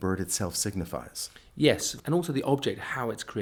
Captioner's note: voiceover